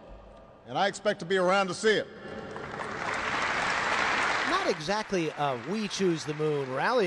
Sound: applause

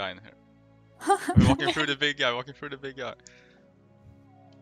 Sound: haha

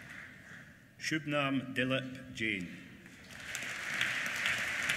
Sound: applause

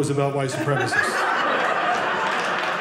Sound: audience laughing

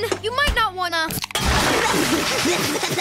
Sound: splashing; coughing

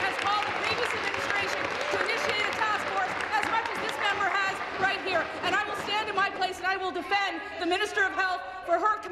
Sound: some Applause

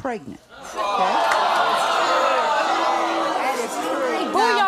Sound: audience shouting

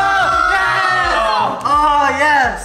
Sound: cheering

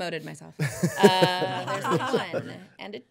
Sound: laughing

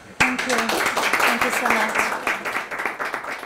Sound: audience clapping

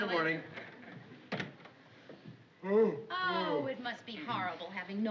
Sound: yawning

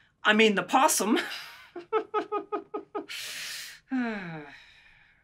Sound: Dr. Reid chuckling

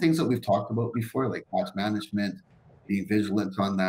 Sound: murmurs

